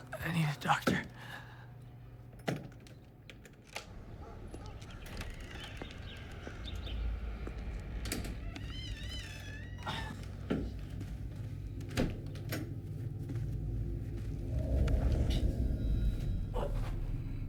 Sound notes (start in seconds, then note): 8.8 door creaking